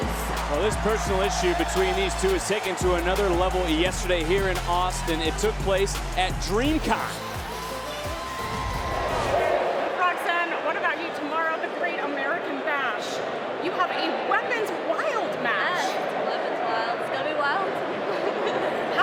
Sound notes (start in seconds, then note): 7.3 crowd cheering; 7.3 upbeat synth music; 17.8 laughs